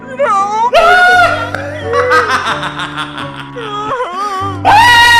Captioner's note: Tinky laughing